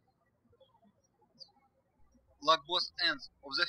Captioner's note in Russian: птички щебечут